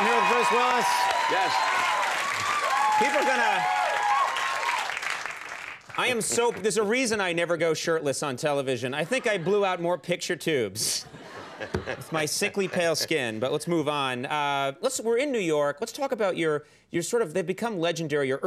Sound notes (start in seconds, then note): 2.3 audience applauding; 11.0 audience laughing